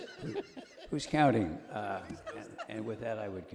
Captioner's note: laughing